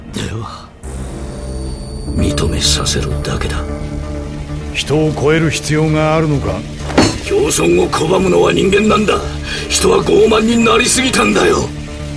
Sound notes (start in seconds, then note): 2.0 menacing voice